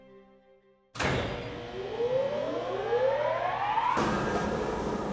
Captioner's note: machine whirring